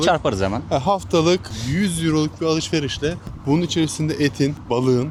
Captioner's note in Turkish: homurdanır